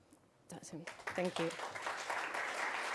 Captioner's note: crowd clapping